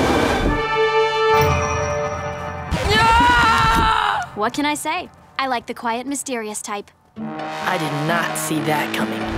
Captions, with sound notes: [screaming] What can I say, I like the quiet, mysterious type. I did not see that coming.